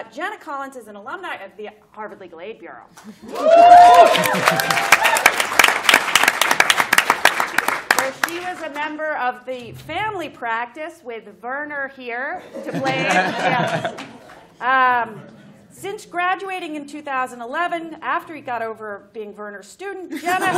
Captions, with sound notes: Jenna Collins is an alumni of the Harvard Legal Aid Bureau. [APPLAUSE] Where she is a member of the family practice with Verner, here, to blame. Yeah. [LAUGHTER] Since graduating in 2011, after he got over being Verner's student, Jenna